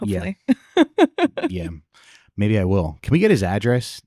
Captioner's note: laughing